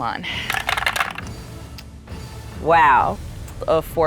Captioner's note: dice rattling